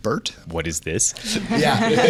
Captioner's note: laughter